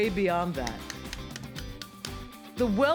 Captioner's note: tapping